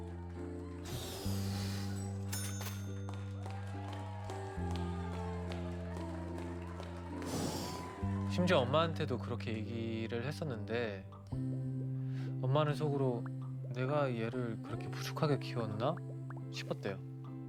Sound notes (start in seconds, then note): 2.1 cash register chimes; 2.8 cheering, applause